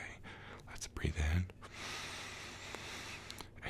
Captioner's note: inhale deeply